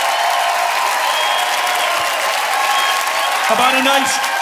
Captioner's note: audience cheering and applauding